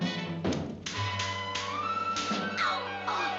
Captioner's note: cap guns popping